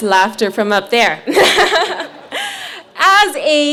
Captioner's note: laughs